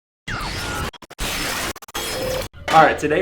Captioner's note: digital beeping